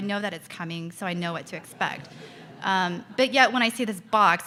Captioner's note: audience laughs